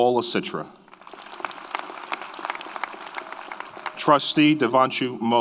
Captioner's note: audience applauds